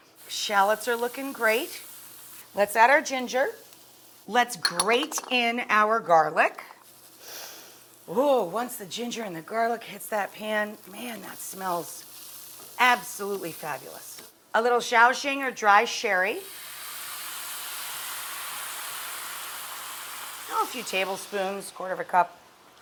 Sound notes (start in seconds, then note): 7.2 sniffs; 16.7 sherry sizzles in pan